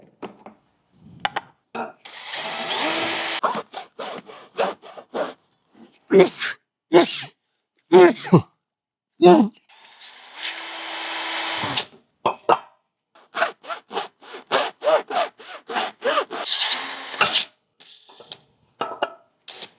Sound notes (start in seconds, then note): 0.3 drill whirring; 7.2 grunting